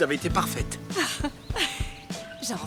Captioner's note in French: rires